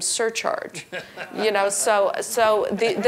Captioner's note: laugh